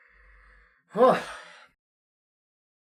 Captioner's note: sigh